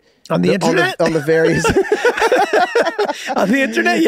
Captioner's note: laugh